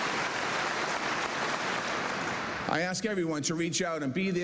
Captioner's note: cheers and applause